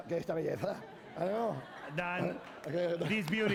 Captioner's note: laughter; speaking spanish